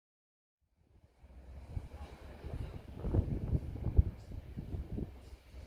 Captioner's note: sounds of wind, and waves splashing